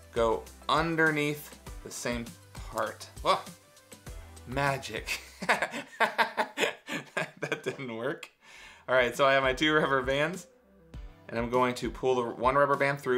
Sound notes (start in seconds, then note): 5.0 Mr. C laughing